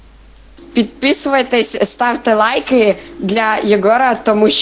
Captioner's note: speaks Ukrainian